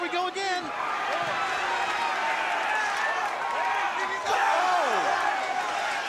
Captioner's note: crowd cheering